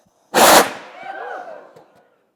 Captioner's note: flame hisses